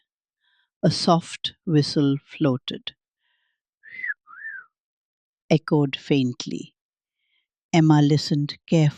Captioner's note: whistles